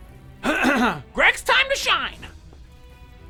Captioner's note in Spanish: Se aclara la garganta